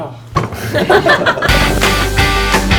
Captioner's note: laughs; upbeat music